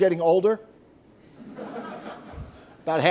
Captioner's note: laughter